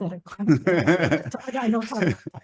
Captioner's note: laughs